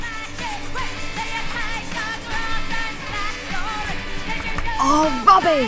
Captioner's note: sounds of pencil scribbling on paper